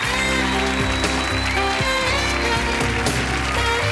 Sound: audience applauding

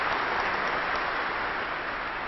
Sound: applause

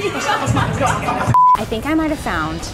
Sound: beeps

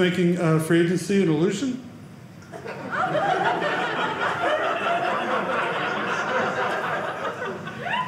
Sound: audience laughing

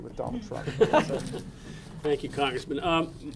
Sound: audience laughing

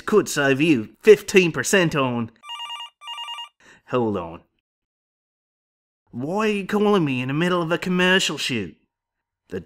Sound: phone rings

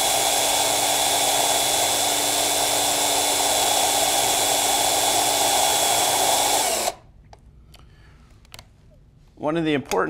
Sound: sound of drill reversing

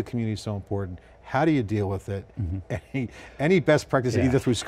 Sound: laughs

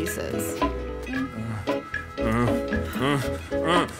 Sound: moaning

